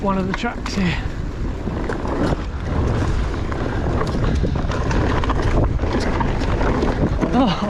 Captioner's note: bike rumbling